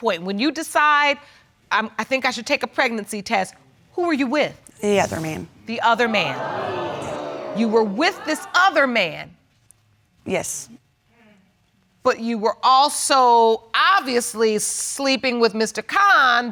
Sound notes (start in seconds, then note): 6.2 audience gasping